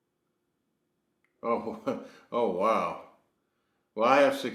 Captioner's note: laughs